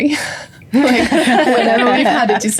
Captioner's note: laughing